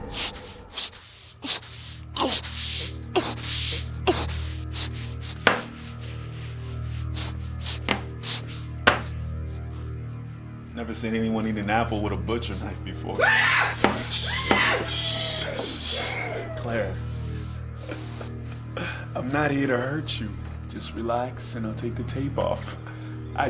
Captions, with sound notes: (Claire gasping and grunting) (cutting board knocking) Never seen anyone eat an apple with a butcher knife before. (Claire screaming) That's weird, shh, shh, shh. Claire, (laughing) I'm not here to hurt you. Just relax and I'll take the tape off. (laughing)